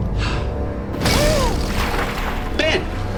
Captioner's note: splashing